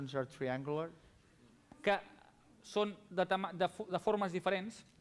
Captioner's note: non-english speech